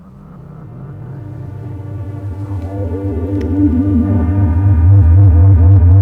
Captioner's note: electric whirring